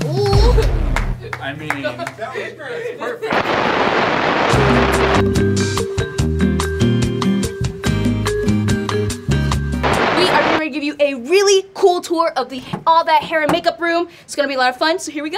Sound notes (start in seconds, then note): 0.9 hands clapping; 3.3 static; 5.9 upbeat music; 9.8 static